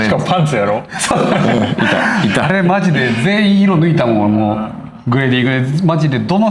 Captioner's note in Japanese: 笑い